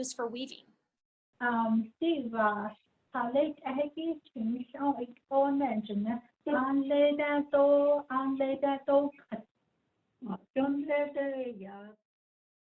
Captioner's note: speaking in Diné